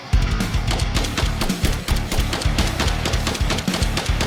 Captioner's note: gun blasting